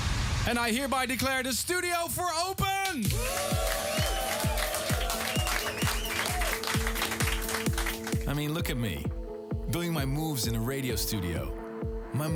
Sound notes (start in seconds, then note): 2.8 cheering and clapping